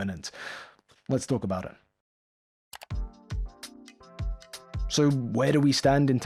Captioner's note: click